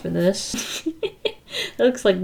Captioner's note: laughs